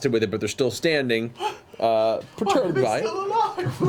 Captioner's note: gasps